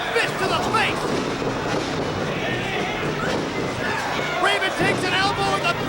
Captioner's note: feet stomping